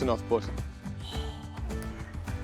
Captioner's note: gasps